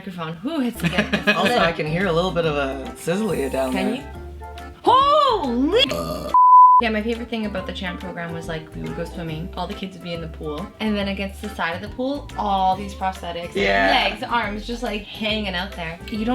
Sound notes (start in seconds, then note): 0.4 laughs; 5.6 belches